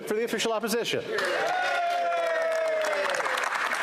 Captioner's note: speaking French